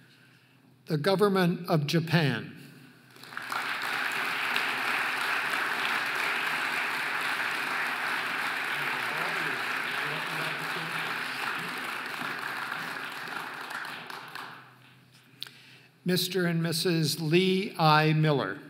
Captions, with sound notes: The Government of Japan (audience applauding) Mr. and Mrs. Lee I Miller